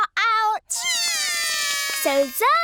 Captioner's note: both cry